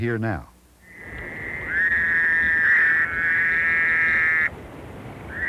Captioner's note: Fowler’s toad call